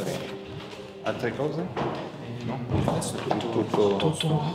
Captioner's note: speaks in Italian